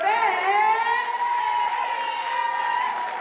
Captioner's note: cheering